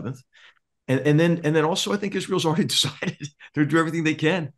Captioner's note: laugh